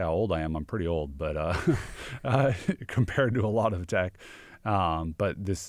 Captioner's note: laughs